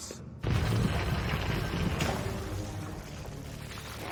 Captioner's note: rumbling